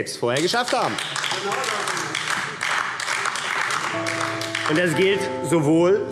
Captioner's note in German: Beifall AfD